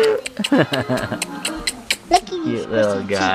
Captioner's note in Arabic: المعانقة الأصوات